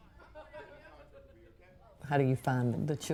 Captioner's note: background chatter